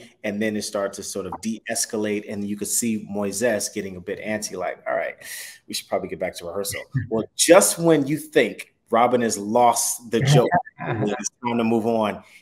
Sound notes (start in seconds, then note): 10.8 chuckling